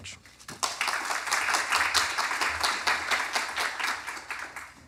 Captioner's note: applause